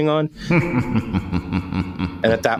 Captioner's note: evil laugh track